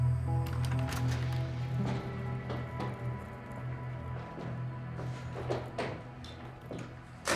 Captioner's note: tense music; wheels clattering